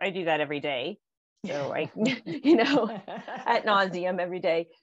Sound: all laughing

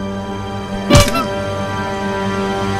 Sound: clown honk; wood breaks; clown honk; music intensifies

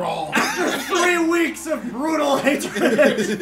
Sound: laugh

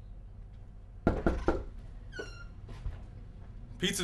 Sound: knocking on door

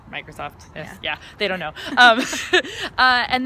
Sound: laughs

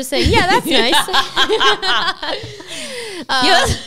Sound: laugh

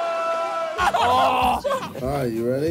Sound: groaning

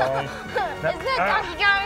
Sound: laughs

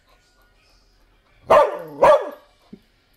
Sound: barking

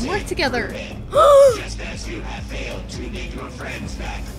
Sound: gasps

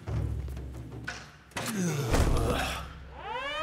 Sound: groaning; sirens blaring

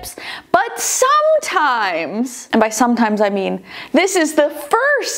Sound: none

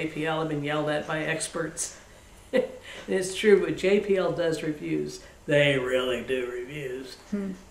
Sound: laughs

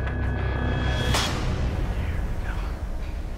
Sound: whispering

